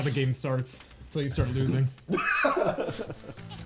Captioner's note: players laughing